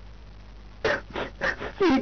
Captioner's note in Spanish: Sonidos de arrepentimiento